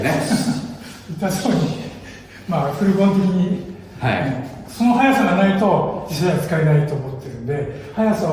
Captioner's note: laughs